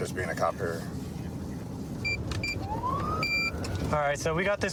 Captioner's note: buttons beeping